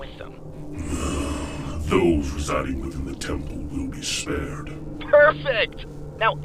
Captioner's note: sighs